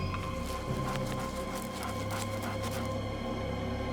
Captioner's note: panting